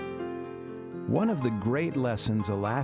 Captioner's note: voiceover